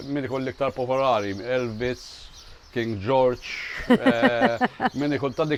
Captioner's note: laughs